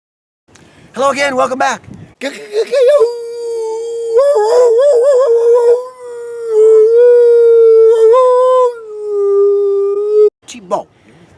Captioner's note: coyote Howl